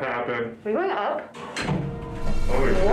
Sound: elevator creaking

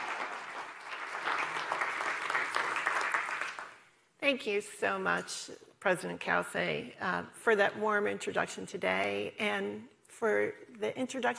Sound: applause

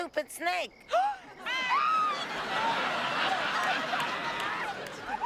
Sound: screaming

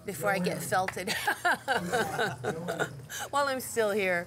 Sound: laughing

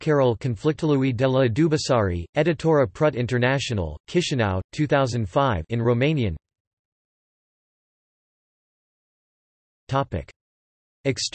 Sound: in Romanian

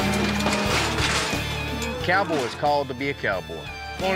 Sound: cows moo

